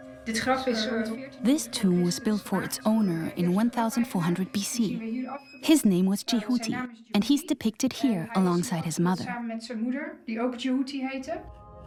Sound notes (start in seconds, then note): 0.0 in Dutch dubbed n English; 9.4 speaks Dutch